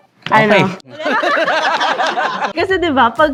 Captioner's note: laughs